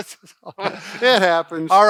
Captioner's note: both laugh